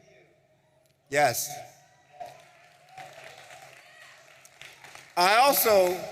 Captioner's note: audience applauding